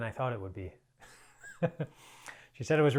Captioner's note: chuckles